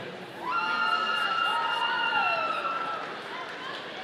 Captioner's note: audience cheering